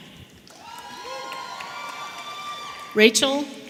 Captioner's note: audience cheering